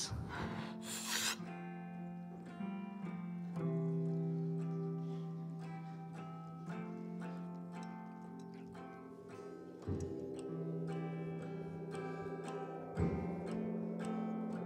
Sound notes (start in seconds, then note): none